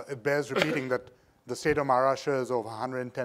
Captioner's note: coughing